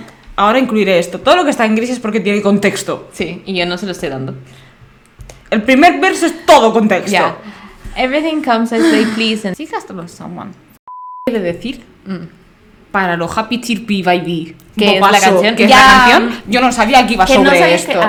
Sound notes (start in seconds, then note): 8.7 sighs